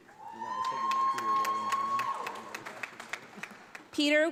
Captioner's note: audience applauds